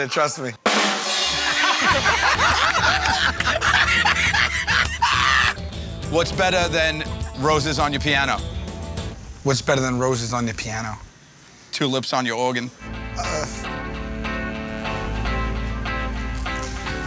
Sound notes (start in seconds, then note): 0.1 rim shot; 1.3 laughter